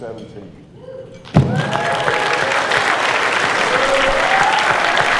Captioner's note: cheers and applause